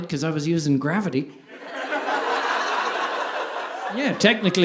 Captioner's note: audience laughing